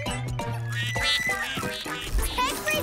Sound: quacking

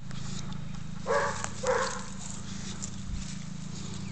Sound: woof! woof!

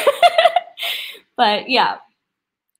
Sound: laughs

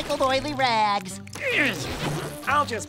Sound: grunting

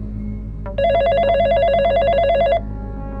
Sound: phone ringing

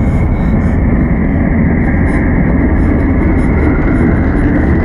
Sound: rumbling

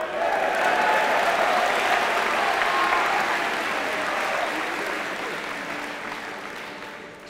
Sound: applause

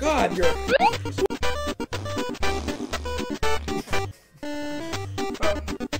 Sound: fart noises

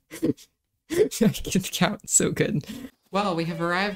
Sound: laugh; laughing

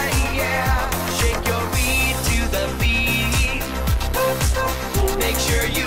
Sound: ooh, ooh, ooh

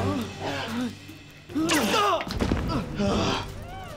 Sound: grunting

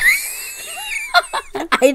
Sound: wheeze laughs; laughs

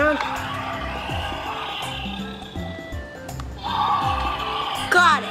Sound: upbeat music; dinosaur growls

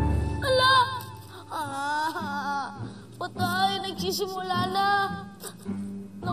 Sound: whines

